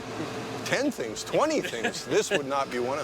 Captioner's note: laughter